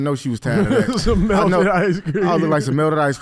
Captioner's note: laughs